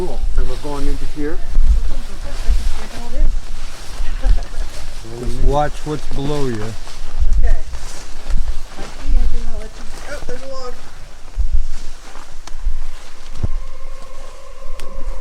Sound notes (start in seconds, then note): 3.1 brush rustling; 12.9 eerie music